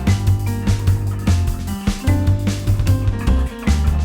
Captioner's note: barrel clanking